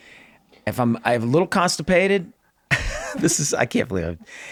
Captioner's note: laughs